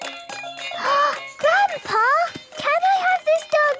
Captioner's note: upbeat music; gasps